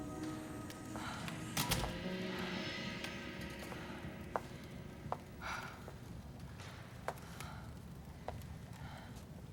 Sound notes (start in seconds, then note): 1.0 gunshot